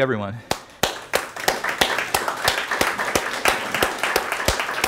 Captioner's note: clapping